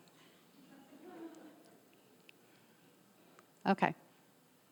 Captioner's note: audience members laughing